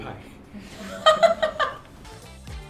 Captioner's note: laughs